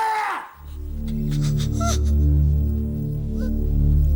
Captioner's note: whimpering